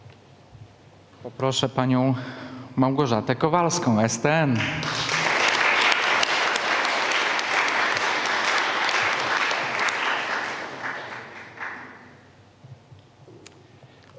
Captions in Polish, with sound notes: Poproszę panią Małgorzatę Kowalską STN. [oklaski]